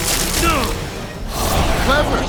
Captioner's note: wincing